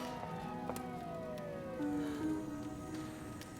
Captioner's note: siren